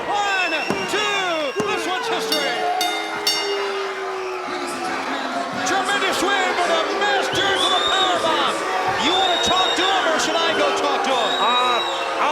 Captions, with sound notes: One, two, this one's history. (bell rings) (crowd boos) Tremendous win for the Masters of the Powerbomb. You want to talk to them or should I go talk to them?